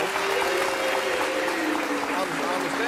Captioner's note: audience applauds